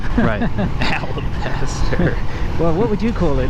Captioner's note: snickers; laughs